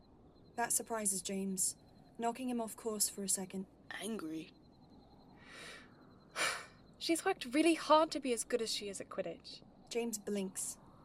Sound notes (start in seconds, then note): 6.4 Lily sighs